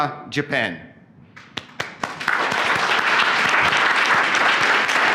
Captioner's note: applause